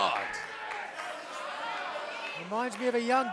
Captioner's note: crowd cheering